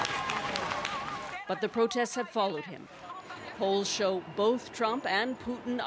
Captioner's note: applause